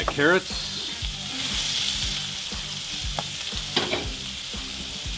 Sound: pan simmering

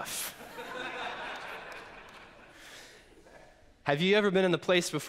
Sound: congregation laughs

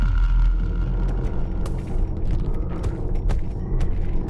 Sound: thumping

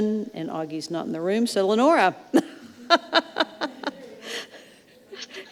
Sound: laughs

